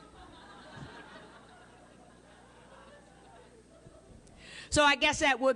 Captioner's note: laughter